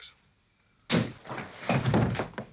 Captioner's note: thud; silenced gunshot